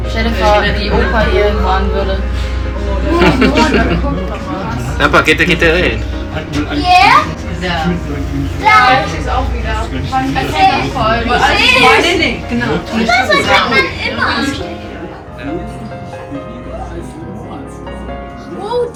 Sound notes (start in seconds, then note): 0.0 background music; 0.3 laugh; 0.3 speaking German; 11.9 speaking German; 17.2 speaking German